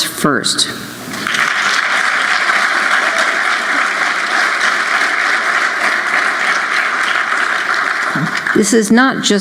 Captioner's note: applause